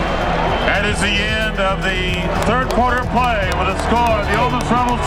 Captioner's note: voiceover